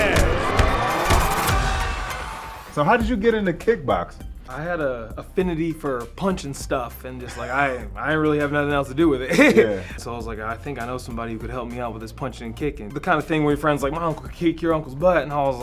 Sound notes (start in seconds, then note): 0.0 film reel rewinding; 9.2 laughing